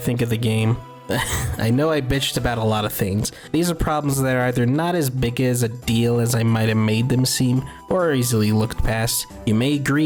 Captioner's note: laughs